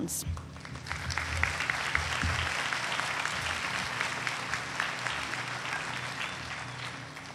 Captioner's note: applause